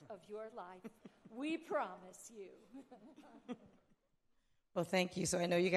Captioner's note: all chuckling